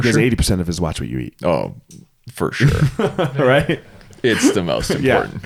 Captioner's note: laughs